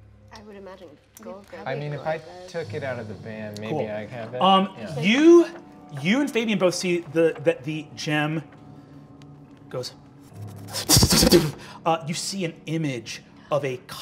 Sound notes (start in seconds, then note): 10.7 imitates magic sputtering